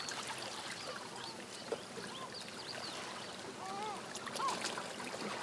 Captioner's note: seagulls and lapping water